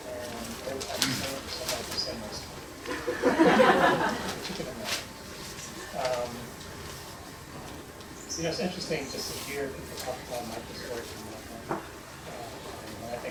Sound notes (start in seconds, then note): 2.8 laughter